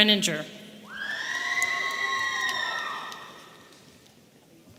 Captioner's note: woman screaming